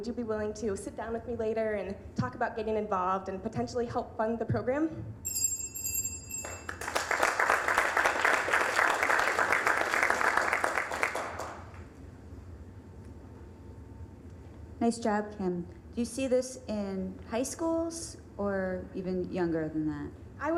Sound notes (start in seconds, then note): 5.2 bell dinging; 6.4 applause